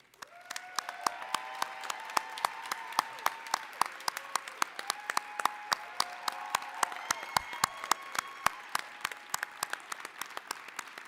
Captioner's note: applause, cheering